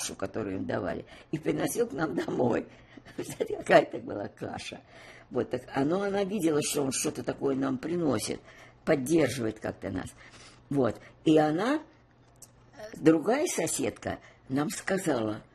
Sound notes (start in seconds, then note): 3.0 laughing